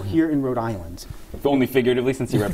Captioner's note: laughter